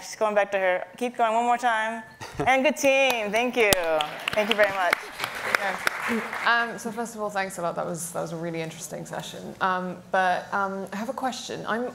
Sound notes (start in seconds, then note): 3.6 clapping; 3.8 audience applauding